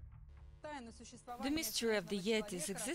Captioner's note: in foreign language